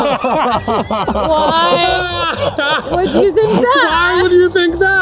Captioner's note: laughing